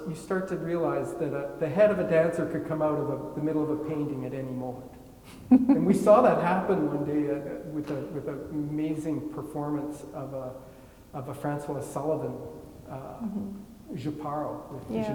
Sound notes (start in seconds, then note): 5.4 laughing